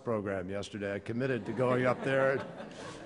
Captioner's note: laughter